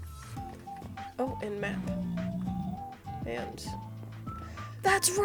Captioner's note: groan